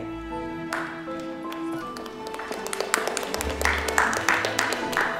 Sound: applause

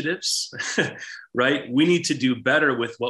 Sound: chuckles

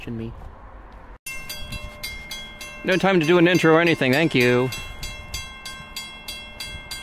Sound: high bell

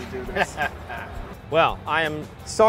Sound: laughing

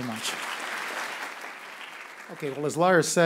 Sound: applause

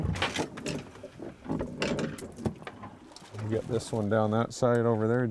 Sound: clattering

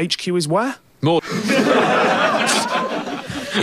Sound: audience laughs

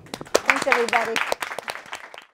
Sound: audience claps

